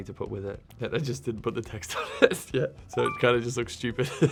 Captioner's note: laughing